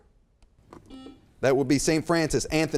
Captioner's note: beep